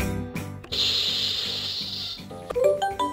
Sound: steam hisses; merry music

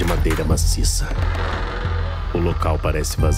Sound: cathedral doors creaking

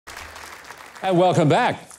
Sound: audience applauds

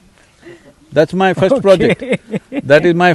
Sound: laughs

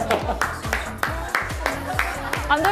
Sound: laughing to death

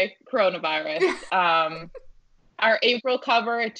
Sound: laughing

